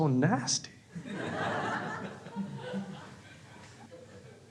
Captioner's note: crowd laughs